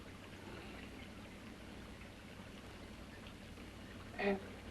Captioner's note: liquids bubbling